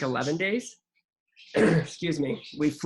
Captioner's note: clears throat